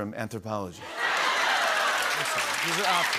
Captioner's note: laughter and applause